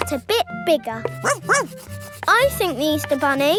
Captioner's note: barks